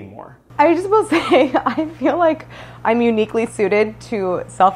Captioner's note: laughs